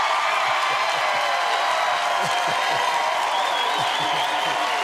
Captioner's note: cheers and applause; laughs